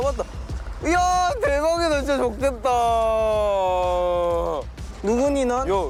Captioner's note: excited